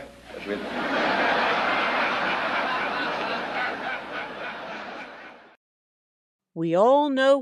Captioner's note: laughter